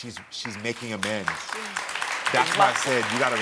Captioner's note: audience applauding